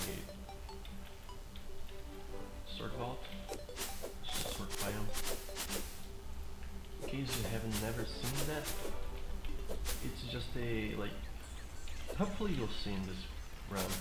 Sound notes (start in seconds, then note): none